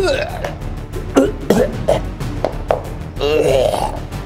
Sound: retches; Momo retching; baby groaning

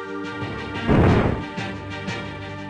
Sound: clonk

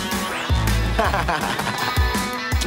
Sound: laughs

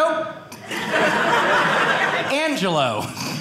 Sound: audience laughing

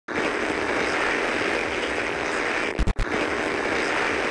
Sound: static crackling

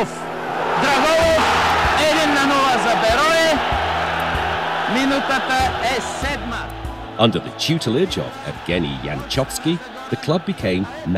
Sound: recordings playing; fans celebrating

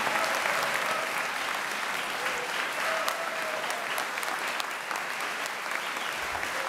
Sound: applause

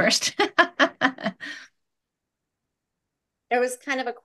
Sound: person laughing

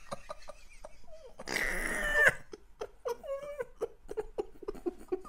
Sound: sounds Like A Dying Animal Type Of Laughter

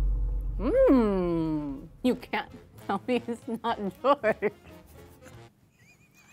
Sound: thrilling music; laughs

